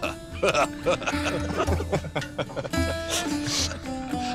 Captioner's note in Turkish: Gülme sesleri